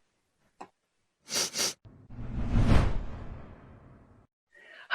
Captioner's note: sniffs